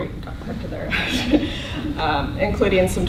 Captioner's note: laughter